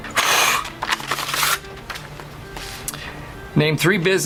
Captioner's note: blows; envelope rustles